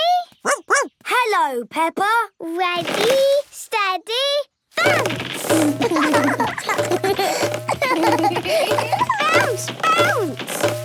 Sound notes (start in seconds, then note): 0.0 snorts; 0.4 barks; 5.7 both laugh